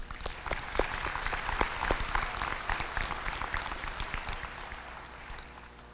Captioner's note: applause